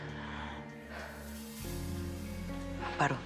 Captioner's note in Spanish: Suspiros